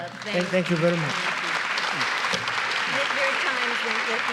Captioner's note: audience applauds